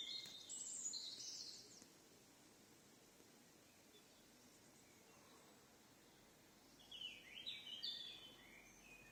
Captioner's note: birds singing